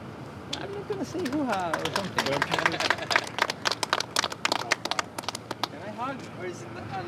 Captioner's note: everyone clapping